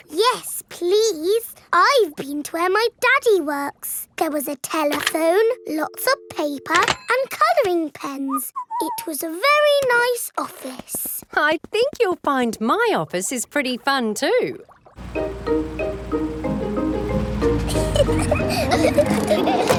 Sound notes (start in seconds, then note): 8.6 whistles; 17.4 children giggling